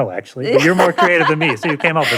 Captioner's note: laughs